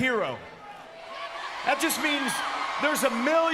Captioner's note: crowd cheers